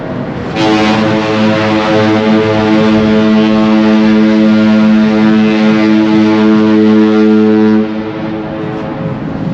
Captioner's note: sound of ship's horn